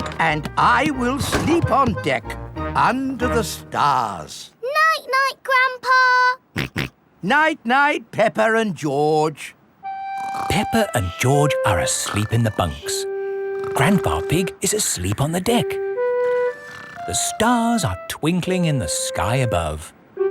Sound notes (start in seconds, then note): 6.7 snorts